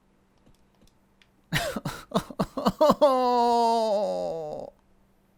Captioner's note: whiningly